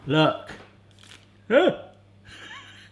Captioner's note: moans; laughs